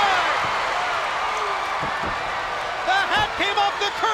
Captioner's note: spectators cheering